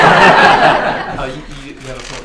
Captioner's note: laughter